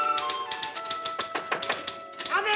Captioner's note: knocking